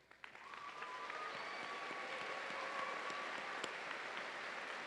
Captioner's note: audience cheering